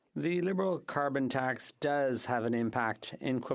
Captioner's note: speaking French